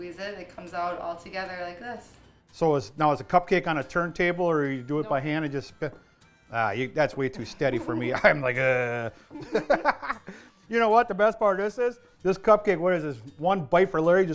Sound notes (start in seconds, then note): 7.4 giggles; 9.2 laughter